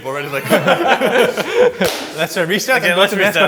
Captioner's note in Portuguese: risos; aplausos